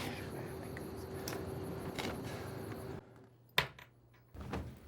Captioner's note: Vargas whispers indistinctly